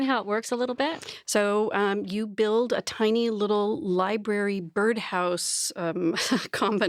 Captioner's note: chuckles